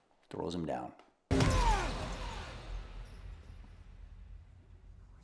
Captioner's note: grunting